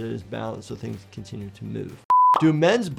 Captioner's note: screen beeping